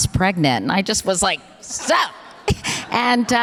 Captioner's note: audience laughter